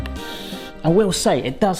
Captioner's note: inhaling